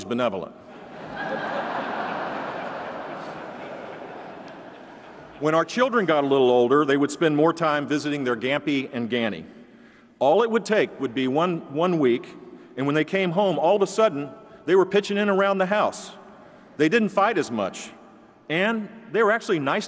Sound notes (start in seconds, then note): 5.3 laughter